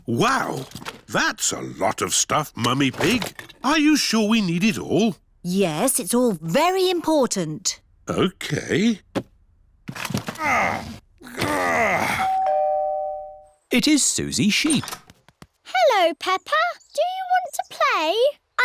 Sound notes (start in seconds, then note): 10.2 groans; 12.2 doorbell rings